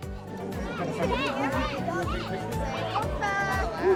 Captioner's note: background chatter